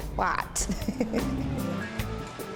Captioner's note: chuckles